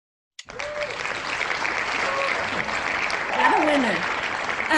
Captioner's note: loud applause